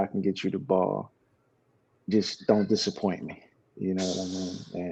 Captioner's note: laughs